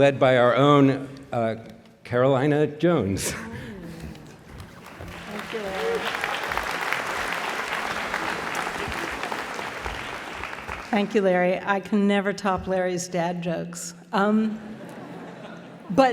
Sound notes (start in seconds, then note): 6.3 applause